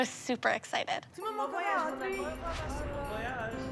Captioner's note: french voices; upbeat music